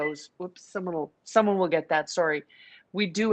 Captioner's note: phone rings